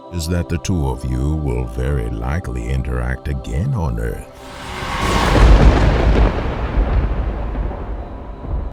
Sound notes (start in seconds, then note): 4.3 thunder rumbling